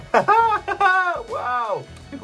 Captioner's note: laughs